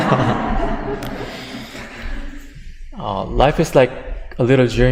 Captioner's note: audience laughter